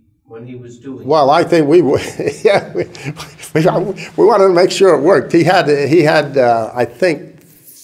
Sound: chuckle

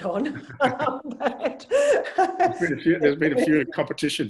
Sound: laugh

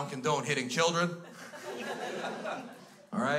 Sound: crowd laughs

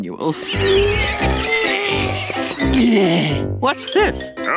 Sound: grunting

